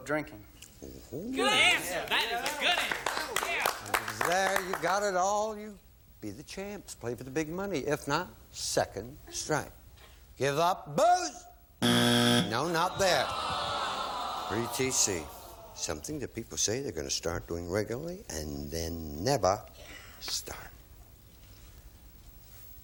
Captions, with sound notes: -The partner to hers -- give up drinking. -Good answer. That is a goodie! Yeah. -If it's there, you've got it all, you'll be the champs, play for the Big Money. If not, second strike. Give up booze? (buzzer) No, not there. T. C., something people say they're going to start doing regularly and then never start.